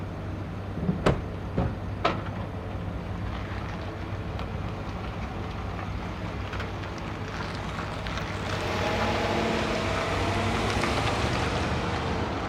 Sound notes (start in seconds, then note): 1.0 truck door slams; 4.2 truck engine hums; 8.0 truck engine revs